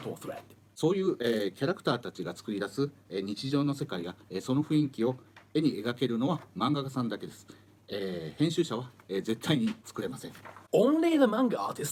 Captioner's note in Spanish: Hablando en japonés